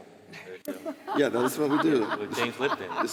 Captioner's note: laughter